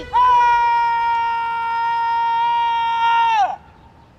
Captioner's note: screaming